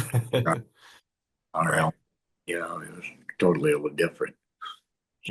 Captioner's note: laughs